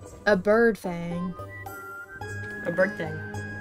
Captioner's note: none